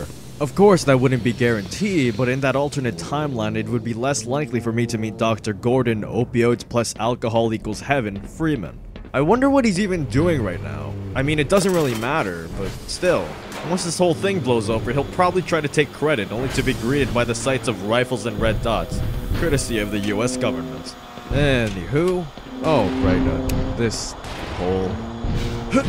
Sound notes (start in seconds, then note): 9.1 tentacle groans; 11.1 groaning and banging